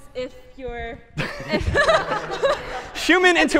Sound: laughter

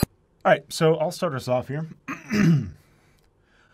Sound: clears throat

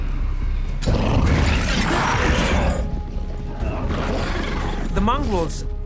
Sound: snarling

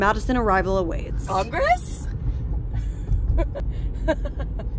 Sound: laughing

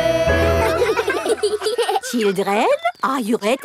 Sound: children laughing

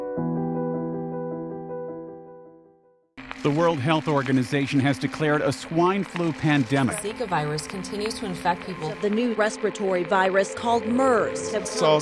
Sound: news chatter about different global epidemics

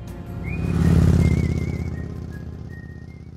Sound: bright music; motorcycle revving

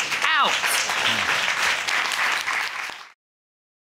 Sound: audience applauds

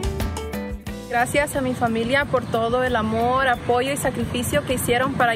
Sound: speaks in foreign language

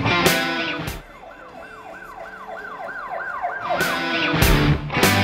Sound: police sirens blaring; upbeat rock music

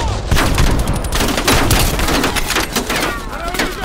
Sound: gunfire

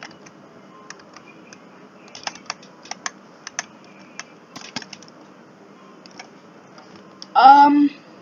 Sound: clicky

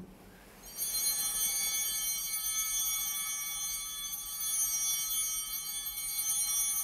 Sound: chimes ringing

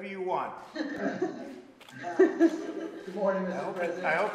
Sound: laughter

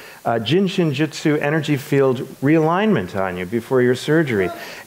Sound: speaks foreign language

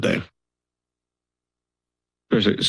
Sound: silence

